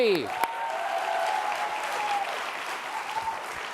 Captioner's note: applause